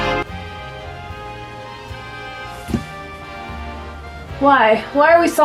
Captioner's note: distant sounds of sawing